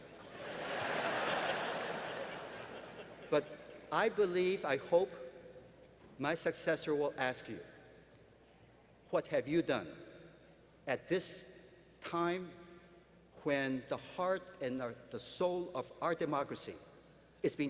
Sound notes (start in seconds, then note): 0.1 laughter